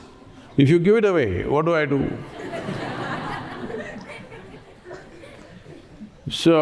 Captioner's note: laughter